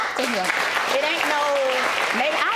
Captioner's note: audience applauds